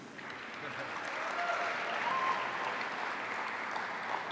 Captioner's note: audience applauding